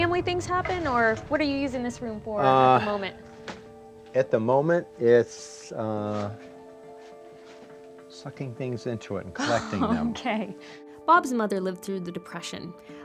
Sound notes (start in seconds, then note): 9.4 laughing